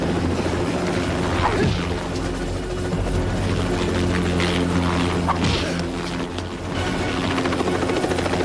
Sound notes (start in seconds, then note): 1.4 grunts; 1.4 thuds